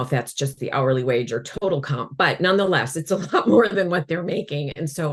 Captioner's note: chuckles